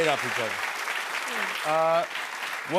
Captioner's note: applause